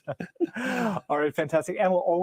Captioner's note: both laugh